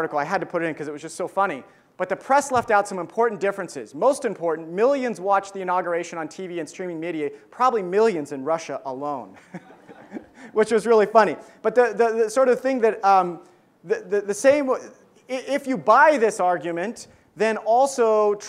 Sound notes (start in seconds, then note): 9.4 laughs; 9.5 audience laughs